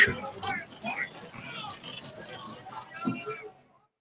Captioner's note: men yelling